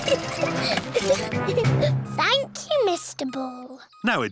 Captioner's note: giggling